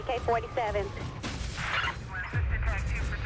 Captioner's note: police chatter